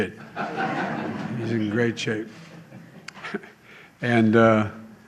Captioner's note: laughter